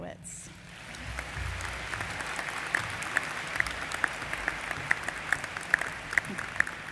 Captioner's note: applause